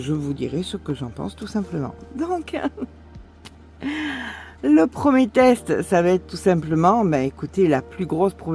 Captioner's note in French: rires